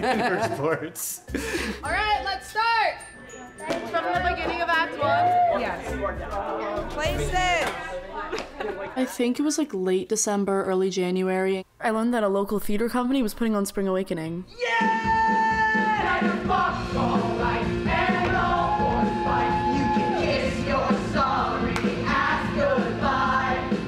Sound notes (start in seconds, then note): 0.0 laughing; 3.3 students chatting